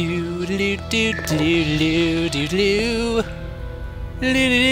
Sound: more obnoxious humming; even more obnoxious humming

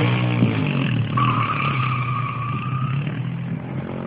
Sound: tire chirping

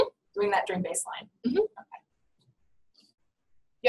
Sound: voiceover

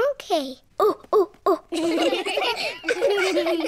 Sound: children laughing; all laugh

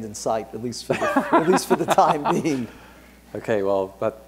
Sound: Peter laughs

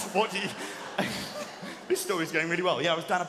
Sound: laughing

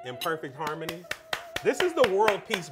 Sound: claps hands

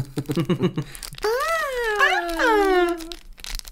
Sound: more Real Screams

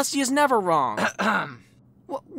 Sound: spike clears throat

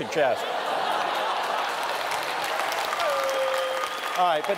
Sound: laughter

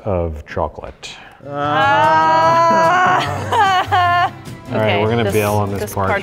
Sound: both groan loudly

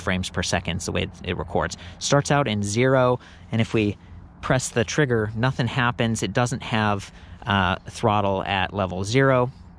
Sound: none

